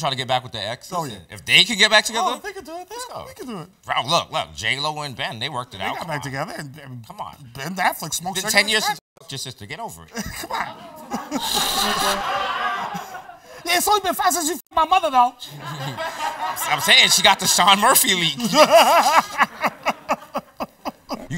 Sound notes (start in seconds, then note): 10.1 laughs; 10.1 laughter; 15.5 laughter; 18.3 laughs